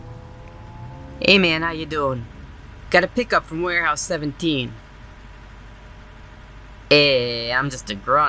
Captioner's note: exaggerated vaguely New York Accent